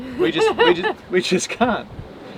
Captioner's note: laughs